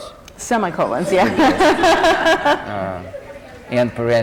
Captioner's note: laughter